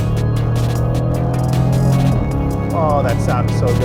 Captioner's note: engine revving; upbeat music